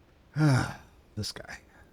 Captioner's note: sighs